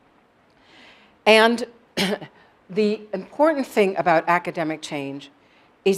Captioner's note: cough